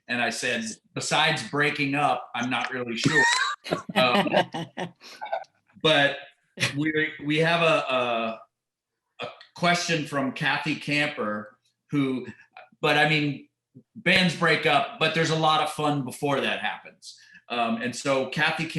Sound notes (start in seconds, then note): 3.0 laughter